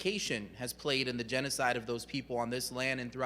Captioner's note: none